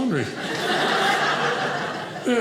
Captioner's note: audience laughing